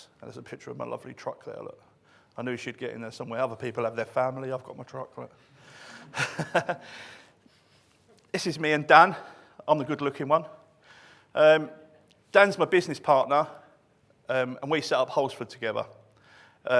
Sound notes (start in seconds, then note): 6.0 laughing